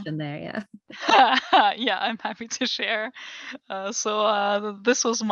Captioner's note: laugh